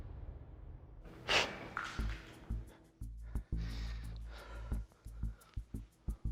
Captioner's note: music stops; exhales sharply; suspenseful music playing